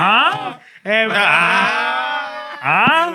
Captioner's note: yelling; groaning